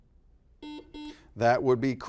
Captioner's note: buzzer buzzes